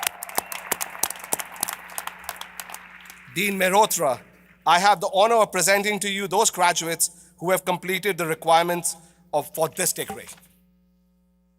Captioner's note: applause